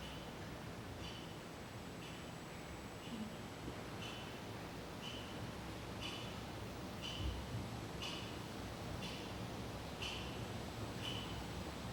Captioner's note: the ticking clock sound grows louder and then cuts off with the blackout